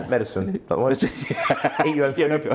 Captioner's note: both laugh